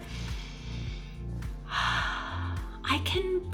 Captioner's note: breaths in and out